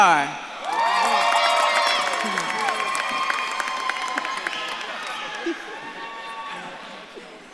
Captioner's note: audience claps and cheers